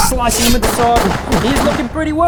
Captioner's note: pew pew pew pew